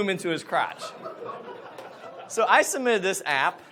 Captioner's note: audience laughs